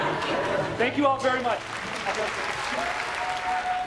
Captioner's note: audience applauds